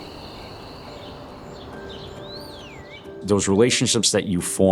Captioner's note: birds chirping; soft soothing music